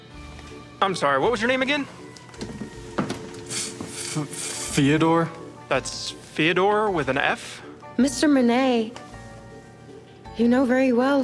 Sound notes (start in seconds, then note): 3.9 stuttering